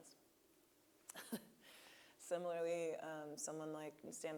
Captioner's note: laughing